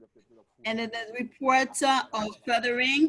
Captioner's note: French spoken